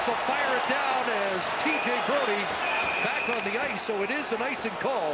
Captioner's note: cheering and APPLAUSE